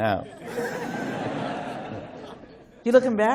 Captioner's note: laughter